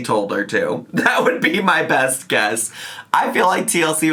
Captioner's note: laughs